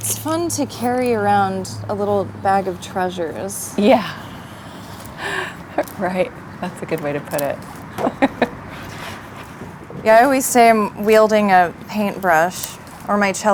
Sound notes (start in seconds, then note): 7.9 laughing